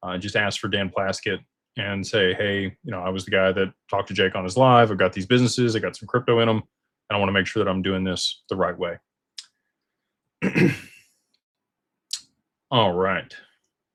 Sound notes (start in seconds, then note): 10.4 clears throat